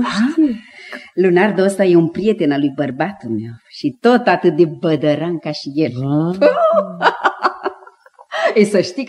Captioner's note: laughs